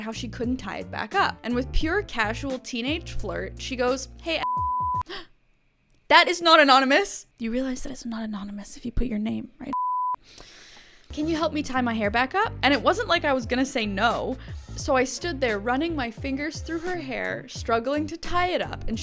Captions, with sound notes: how she couldn't tie it back up. And with pure casual teenage flirt, she goes, Hey (beep)." (gasps) That is not anonymous. You realize that it's not anonymous if you put your name, right, (beep)?" "'Can you help me tie my hair back up?' And it wasn't like I was gonna say no. So I stood there running my fingers through her hair, struggling to tie it up,